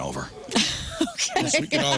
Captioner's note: laughing